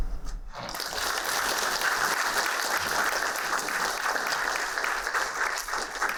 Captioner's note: applauding